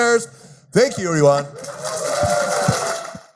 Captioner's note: cheering